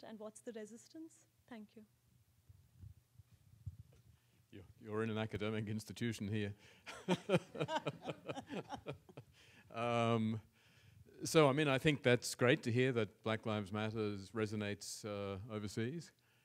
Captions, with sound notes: and what's the resistance, thank you. - You're in an academic institution here. (panelists laugh) So I mean, I think that's great to hear that Black Lives Matter resonates overseas